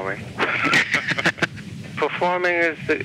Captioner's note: laughs